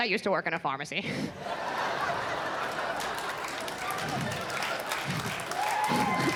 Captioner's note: audience laughs and claps